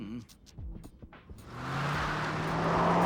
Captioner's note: accelerating